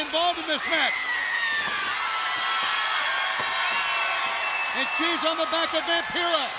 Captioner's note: crowd cheering